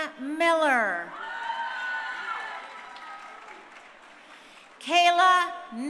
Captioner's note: crowd cheering